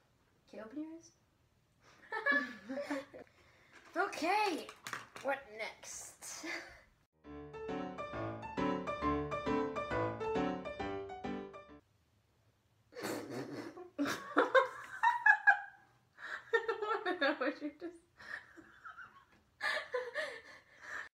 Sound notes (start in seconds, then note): 2.1 laughs; 13.0 both laugh; 13.0 laughs; 18.3 both laugh